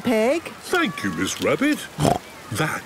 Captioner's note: snorts